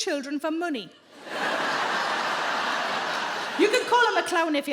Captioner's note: audience laughs